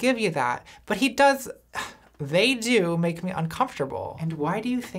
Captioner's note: scoffs